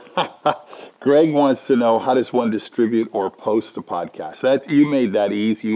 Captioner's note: laugh